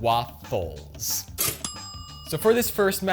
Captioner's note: toaster popping; timer dings